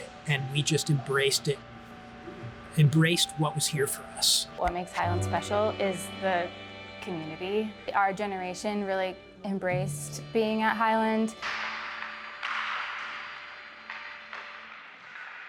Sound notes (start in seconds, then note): 11.4 sticks clacking